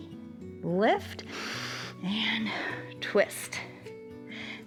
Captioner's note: inhales